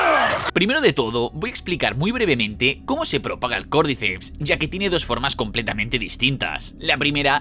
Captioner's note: groan